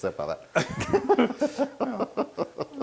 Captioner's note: laugh